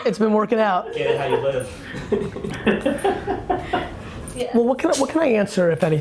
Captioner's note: laughing